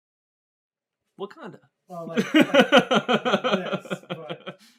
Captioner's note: laughter